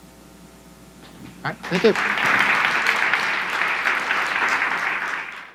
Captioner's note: audience applauds